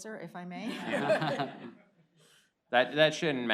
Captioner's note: laughter